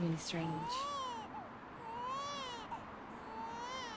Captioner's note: baby crying